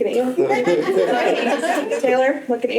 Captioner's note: laughter